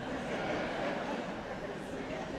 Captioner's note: audience laughs